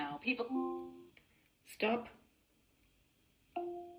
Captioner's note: device chimes; device chimes